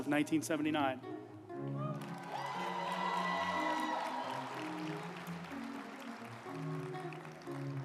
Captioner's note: uplifting music; group applauding